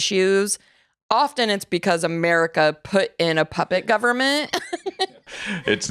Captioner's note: laughs